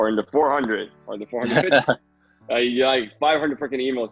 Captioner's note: laughter